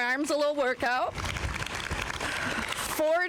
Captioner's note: applause